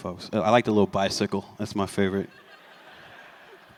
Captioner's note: laughter